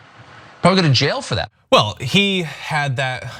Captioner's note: laugh